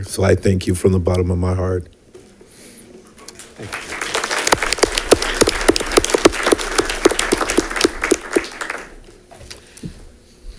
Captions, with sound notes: So I thank you from the bottom of my heart. (congregation applauds)